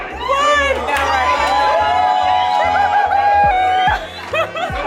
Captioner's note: guests cheering